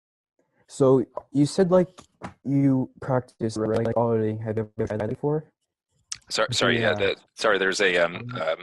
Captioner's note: internet scrambled voice